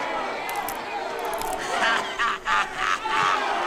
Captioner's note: crowd cheers